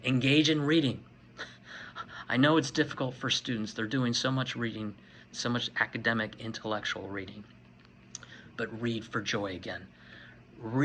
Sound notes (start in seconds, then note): 1.4 laughing